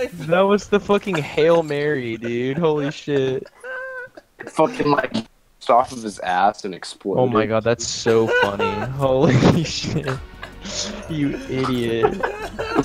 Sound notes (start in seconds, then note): 0.9 continued laughter; 4.9 foreign language; 10.4 laughter